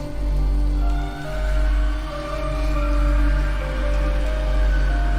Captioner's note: distant screaming